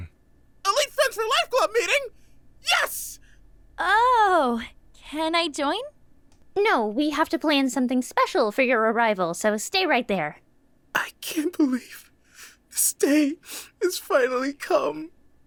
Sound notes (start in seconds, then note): none